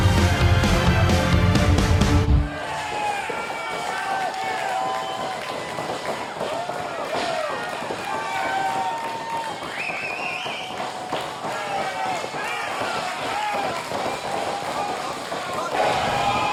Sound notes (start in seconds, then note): 2.6 cheering